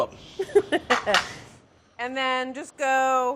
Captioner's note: laughing